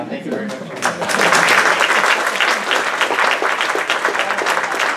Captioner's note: applause